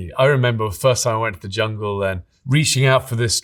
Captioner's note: none